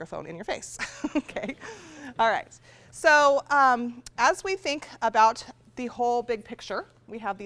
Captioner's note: laughs